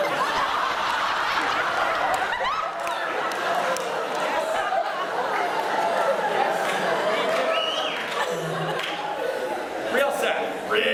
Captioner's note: cheers, laughter, and whistling